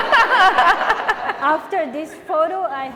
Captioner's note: laughing